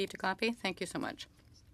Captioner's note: speaking in French